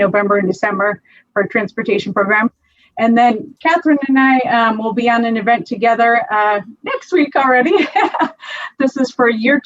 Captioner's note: laughs